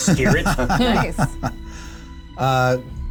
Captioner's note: laughter